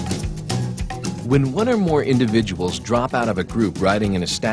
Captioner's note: voiceover